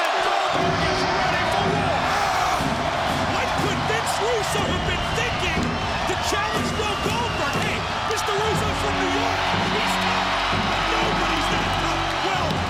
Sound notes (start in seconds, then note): 2.1 Goldberg screams; 2.1 dramatic music